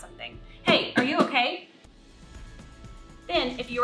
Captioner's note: loud tapping